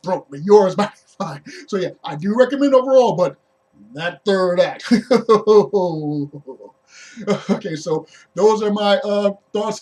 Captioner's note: laughs